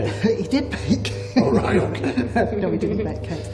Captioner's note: laughs